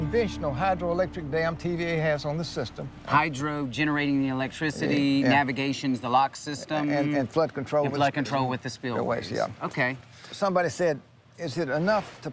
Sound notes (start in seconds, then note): none